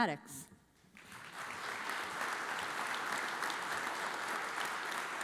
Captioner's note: audience applauds